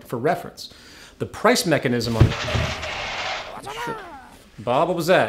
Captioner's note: crash